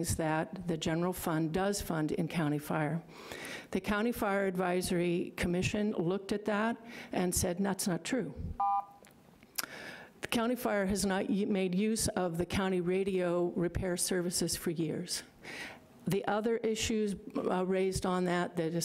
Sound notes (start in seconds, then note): 8.6 buzzer rings